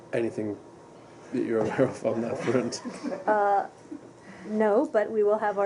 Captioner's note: laughter